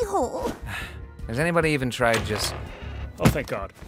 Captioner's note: scoffs